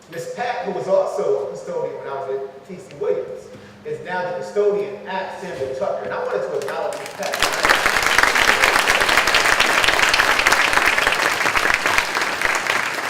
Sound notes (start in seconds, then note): 8.2 clapping